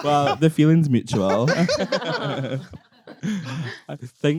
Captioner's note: everyone laughing